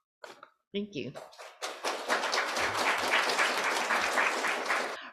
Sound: applause

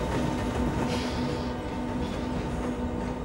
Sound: sighs

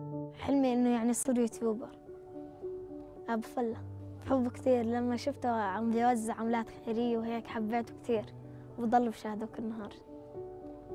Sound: speaking arabic

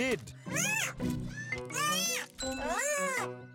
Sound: Bongolala shrieks

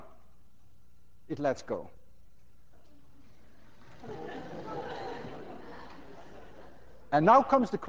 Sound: class laughs

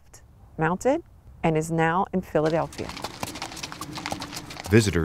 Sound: hooves clacking

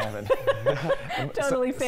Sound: laughter

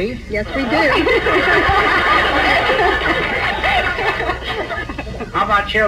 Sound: audience laughs

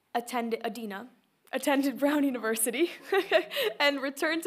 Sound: laughs

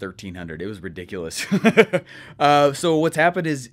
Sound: laughing

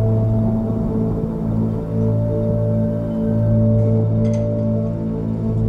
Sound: sound of thunder and rain

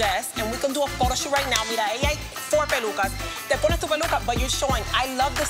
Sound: foreign language

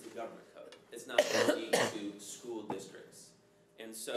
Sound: voice drowned by coughing

